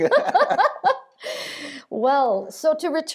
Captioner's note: laughing